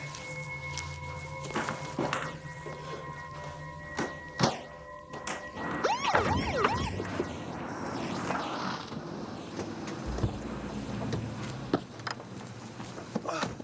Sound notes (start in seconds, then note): 5.3 siren pulsing